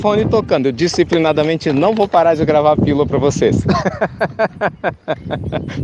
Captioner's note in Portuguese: Risos